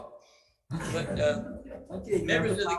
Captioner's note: members laughing